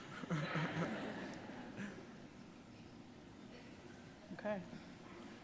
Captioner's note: audience laughing